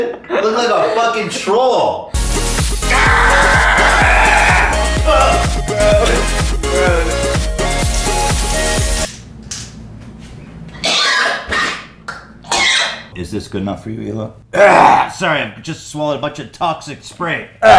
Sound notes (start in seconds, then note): 5.8 gags; 10.8 cough™; 14.8 clears throat